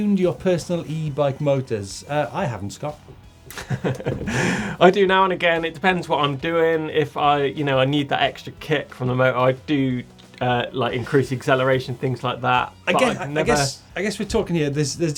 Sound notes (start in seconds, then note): 3.5 laughter